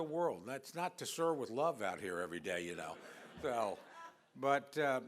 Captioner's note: laughter